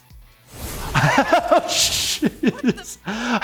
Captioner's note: laughs